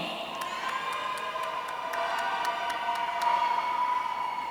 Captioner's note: audience cheering